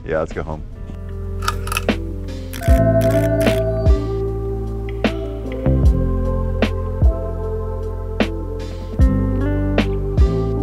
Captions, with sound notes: - Yeah, let's go home. (light clicks softly) (electricity crackles softly) (mellow synth music)